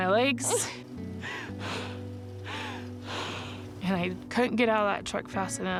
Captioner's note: crying